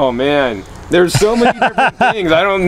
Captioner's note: laughter